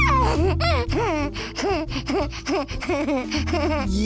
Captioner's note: laughing